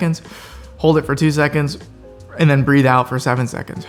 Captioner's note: breathing